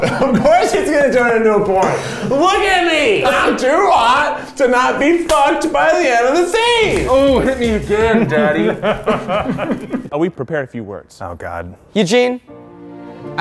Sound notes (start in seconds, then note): 6.6 laughing; 12.4 dramatic music